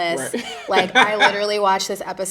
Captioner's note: chuckling